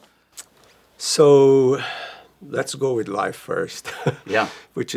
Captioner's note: chuckles